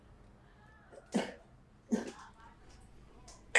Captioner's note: cough